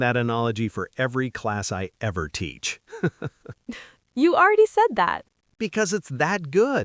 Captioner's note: laughs